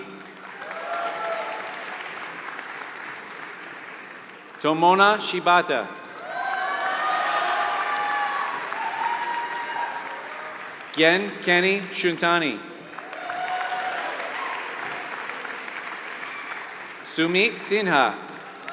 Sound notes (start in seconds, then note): 0.0 applause